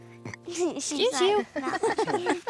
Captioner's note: burps; giggling